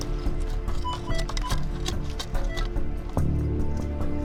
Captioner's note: beeping